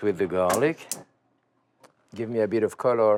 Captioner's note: gas stove clicks